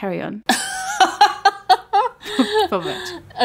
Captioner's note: laughing